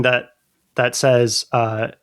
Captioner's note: uh